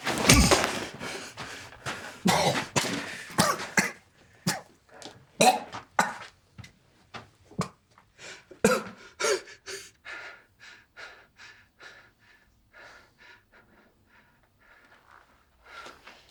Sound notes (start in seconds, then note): 0.1 hit thudding; 2.2 officer coughing; 11.3 officer huffing